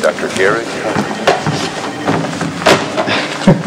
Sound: Terrell chuckles

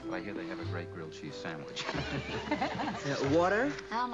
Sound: laughing

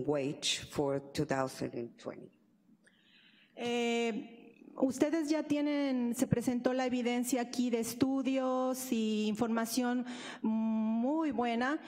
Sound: speaking spanish

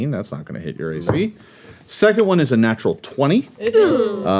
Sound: group groans

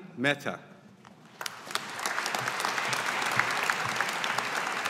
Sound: audience applauding

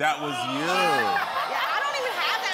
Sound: audience ohs; laughs

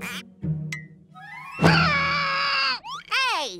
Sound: screaming

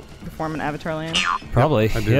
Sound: boing

